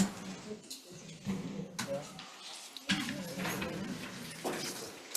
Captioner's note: group chattering